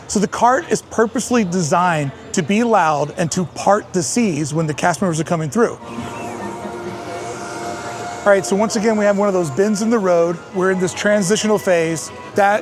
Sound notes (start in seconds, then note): 5.7 soft soundscape; 6.5 birds chirping